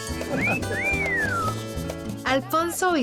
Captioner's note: bird wolf-whistles